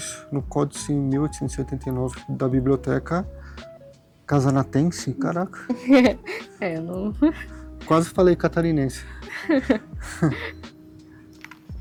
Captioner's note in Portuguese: risadas